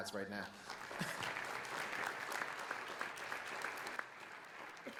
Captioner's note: audience applauds